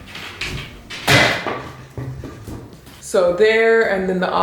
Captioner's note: hexagon thuds